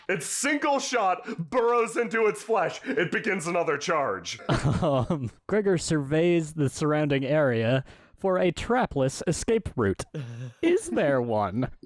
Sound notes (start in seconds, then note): 4.4 laughs